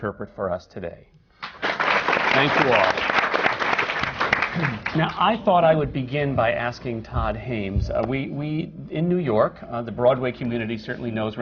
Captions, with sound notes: interpret for us today. Thank you all. [applause] Now, I thought I would begin by asking Todd Haimes, we in New York, the Broadway community certainly knows